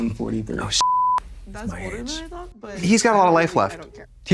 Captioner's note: beep